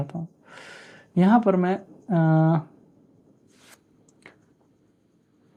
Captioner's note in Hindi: नाक से की जाने वाली आवाज़